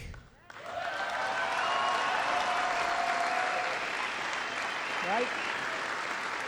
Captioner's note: applause